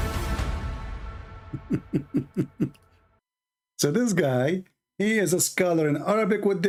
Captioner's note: Ketawa